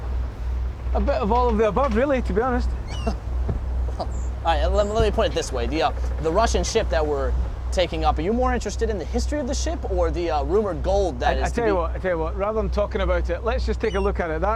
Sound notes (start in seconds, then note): 2.9 chuckles